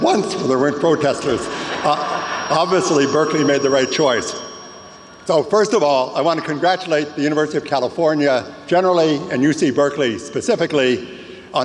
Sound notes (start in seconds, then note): 1.4 audience laughs